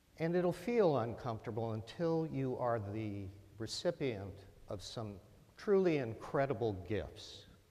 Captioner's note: none